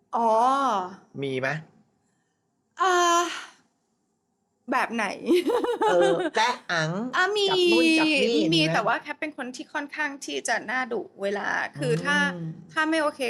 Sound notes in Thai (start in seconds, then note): 3.3 เสียงถอนหายใจ